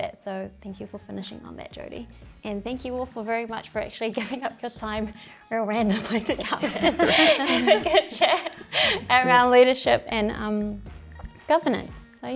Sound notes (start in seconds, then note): 6.0 chuckles